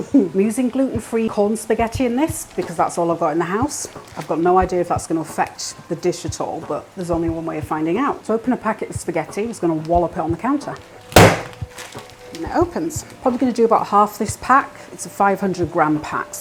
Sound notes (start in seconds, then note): 11.1 bang